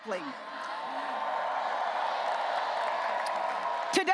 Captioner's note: audience cheering and applauding